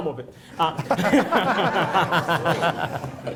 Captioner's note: laughter